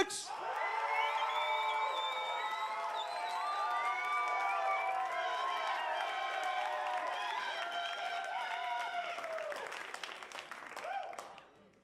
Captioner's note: cheers, applause, and whistling